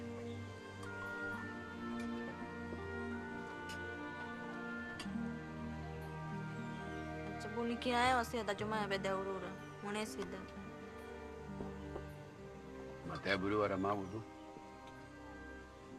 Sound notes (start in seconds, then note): none